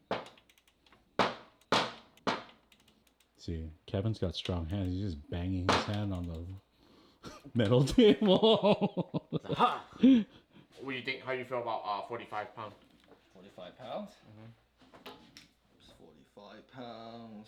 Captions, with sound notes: (tapping) See, Kevin's got strong hands. He's just banging his hand on the metal table. (laughing)What do you think? How do you feel about 45 pounds? 45 pounds? 45 pounds.